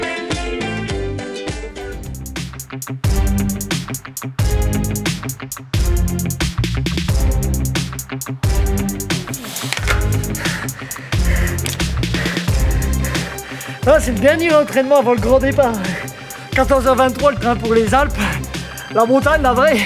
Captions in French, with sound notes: *soupirs* Là, c'est le dernier entraînement, avant le grand départ. 14h23, le train pour les Alpes. La montage, la vraie.